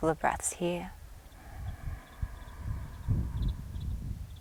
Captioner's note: inhales deeply